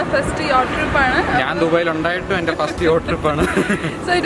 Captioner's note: laughing